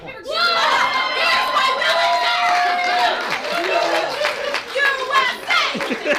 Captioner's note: audience cheers